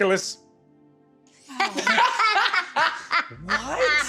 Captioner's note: stunned pause, laughter